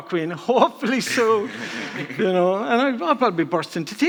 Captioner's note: all laughing